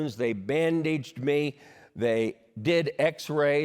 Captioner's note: none